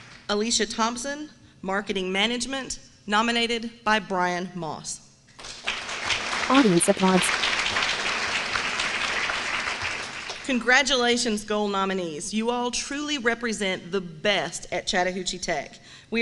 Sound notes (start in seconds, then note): 5.3 applause